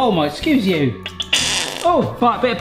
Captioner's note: bottle squelching